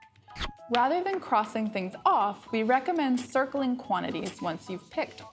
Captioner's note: zoom sound